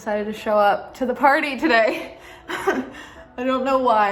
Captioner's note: laughs